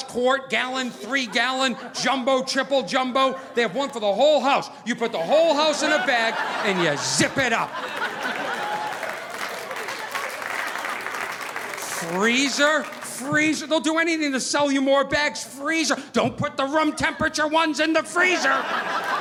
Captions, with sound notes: quart, gallon, three-gallon, jumbo, triple jumbo. They have one for the whole house. You put the whole house in a bag and you zip it up. (audience laughing) (audience applauding) Freezer? Freezer, they'll do anything to sell you more bags. Freezer, don't put the room temperature ones in the freezer!